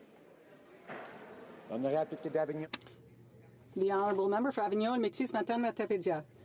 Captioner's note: speaking French